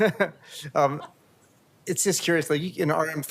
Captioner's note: laughter